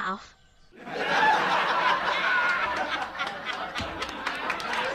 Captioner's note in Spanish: pista de risa